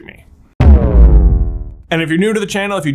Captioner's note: explosion thrumming